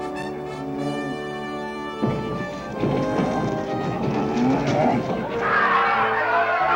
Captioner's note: cow grunts, cart scrapes against ground; crowd cheers